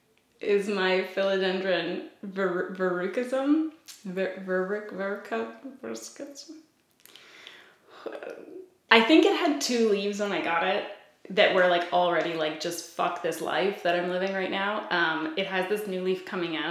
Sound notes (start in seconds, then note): 7.9 sighs